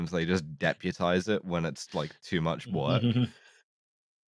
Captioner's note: chuckles